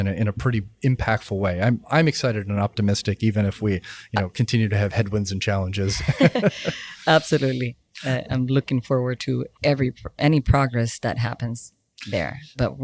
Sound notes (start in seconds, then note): 5.8 both laughing